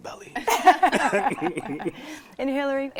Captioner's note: laughing